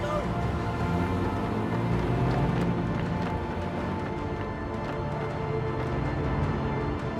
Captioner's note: dramatic music; engine rumbling